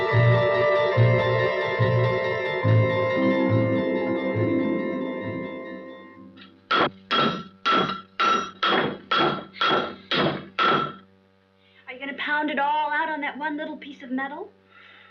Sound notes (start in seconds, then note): 6.6 pounding on metal